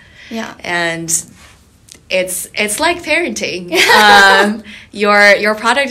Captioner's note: laughing